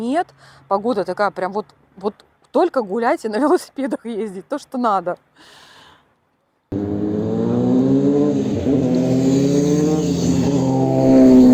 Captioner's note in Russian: тяжело вздыхает